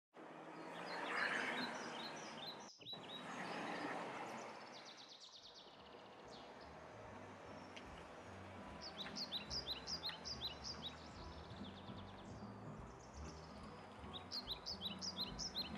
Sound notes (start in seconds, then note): 0.0 birds chirping